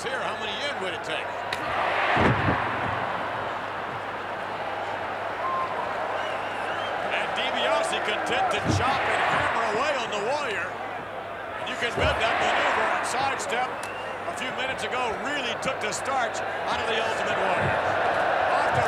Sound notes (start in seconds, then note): 2.1 applause